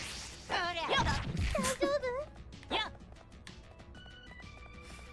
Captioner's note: chuckling